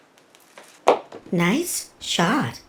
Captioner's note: surprised